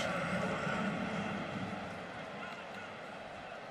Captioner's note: pa announcement